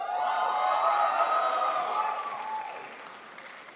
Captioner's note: crowd applauds